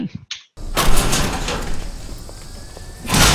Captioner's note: sheet metal clatter; loud thud